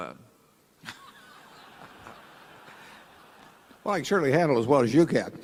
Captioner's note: laughter